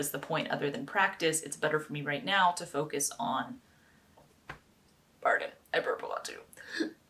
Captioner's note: tiny burp